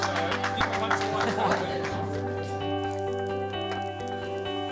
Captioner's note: applause; chuckles; uplifting music